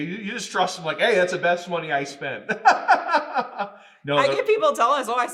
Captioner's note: laughing